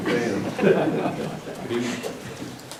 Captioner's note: laughter